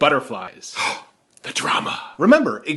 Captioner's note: gasps